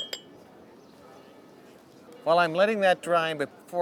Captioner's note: clinking